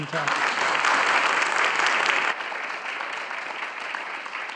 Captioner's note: audience applauding